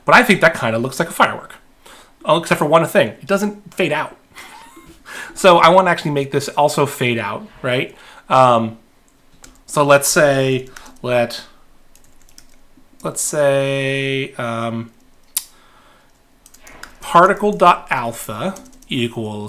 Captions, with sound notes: But I think that kind of looks like a firework, all except for one thing, it doesn't fade out. (chuckling) So I wanna actually make this also fade out. Let's say, particle dot alpha equals,